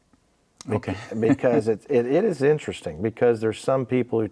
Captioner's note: laughing